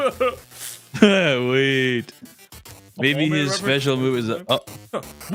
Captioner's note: laughs